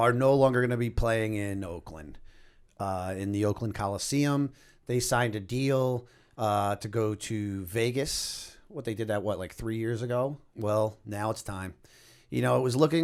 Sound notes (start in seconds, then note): none